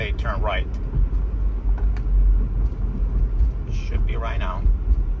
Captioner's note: car engine humming